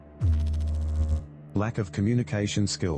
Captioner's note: electrical noise